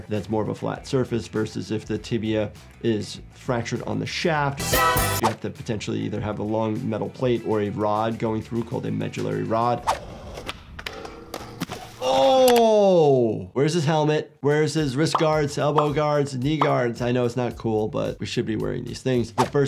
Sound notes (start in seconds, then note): 9.8 graphics whooshing; 10.7 body thuds; 10.7 metal clanging